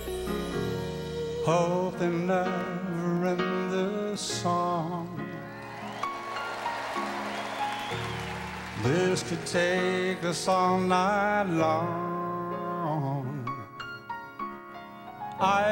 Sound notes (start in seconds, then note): 5.4 cheers and applause